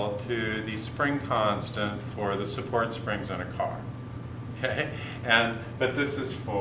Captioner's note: chuckle